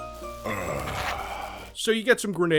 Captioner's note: Postal Dude sighs with relief